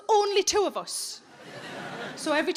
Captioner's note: audience laughing